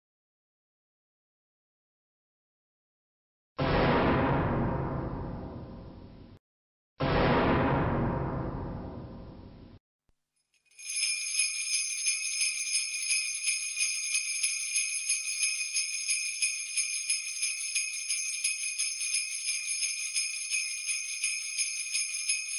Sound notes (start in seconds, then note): 3.6 heavy bang; 10.6 sleigh bells ring; 22.3 sleigh bells continue to ring